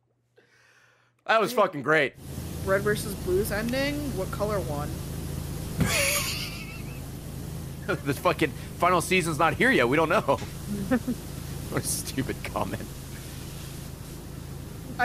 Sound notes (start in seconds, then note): 5.8 laughs